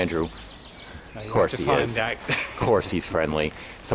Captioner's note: laughs